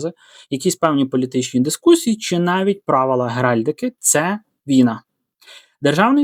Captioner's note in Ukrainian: сопіння